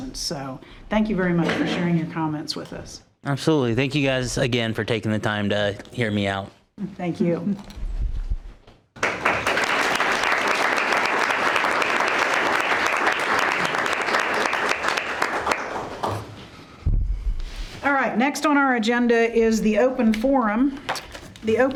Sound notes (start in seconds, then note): 8.9 members applauding